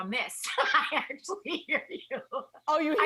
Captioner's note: laughs